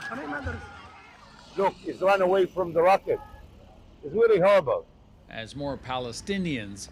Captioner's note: screaming